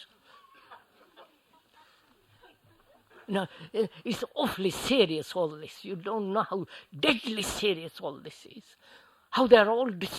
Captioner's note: laughter